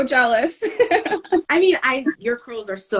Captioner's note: laughing